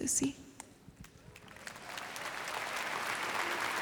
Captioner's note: applause